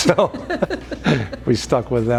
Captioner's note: laughing